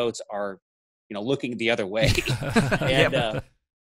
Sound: laughs

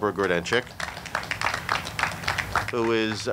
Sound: audience clapping

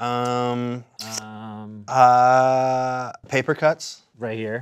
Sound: stammering

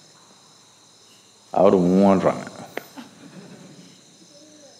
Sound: speaks in Tamil – not transcribed

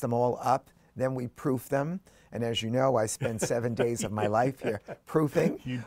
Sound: laughing

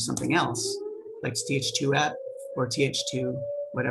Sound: siren blaring

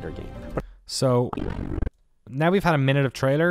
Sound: distortion

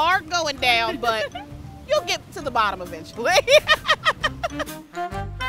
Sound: laughs

